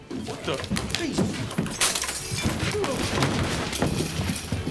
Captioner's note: glass shattering